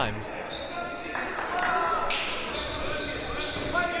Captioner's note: clapping